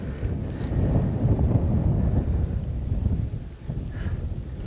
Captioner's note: gusting wind